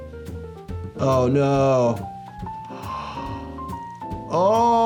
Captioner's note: whimsical music; gasps